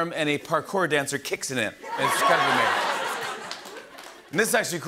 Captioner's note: laughter and applause